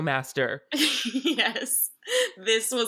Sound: laughing

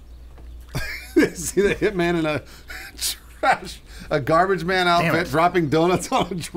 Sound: laughing

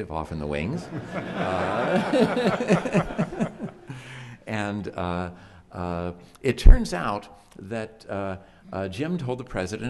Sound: chuckles; chuckles

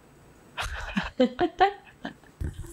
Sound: laughs

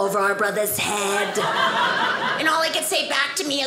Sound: audience laughing

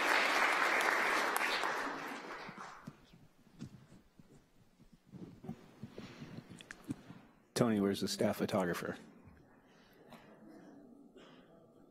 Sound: applause

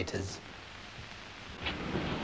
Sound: crackly film noise

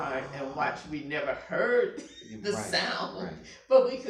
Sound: laughing

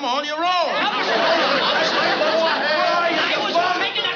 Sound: shouting

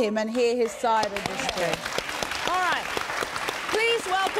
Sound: audience applauding

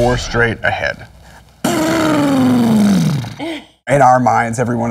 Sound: space engine noises

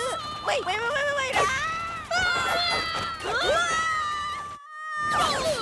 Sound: screaming

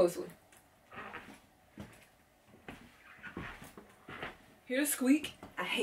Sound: boots squeaking

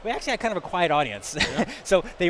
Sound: laughs

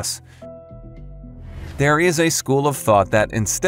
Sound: air whooshes

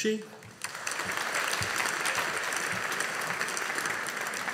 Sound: audience applauding

